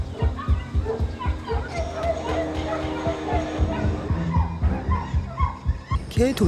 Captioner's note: whimpering